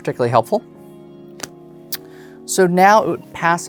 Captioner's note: cards slap on table